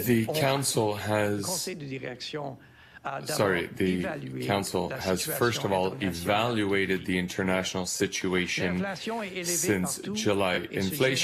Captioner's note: speaking French